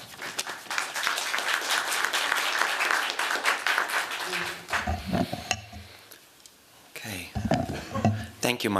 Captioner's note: applause